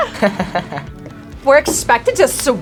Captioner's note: laughs